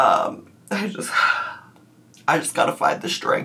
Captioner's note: sighs